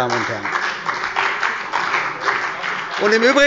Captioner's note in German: Beifall bei der CDU und dem BÜNDNIS 90/DIE GRÜNEN